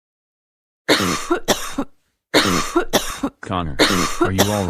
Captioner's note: coughing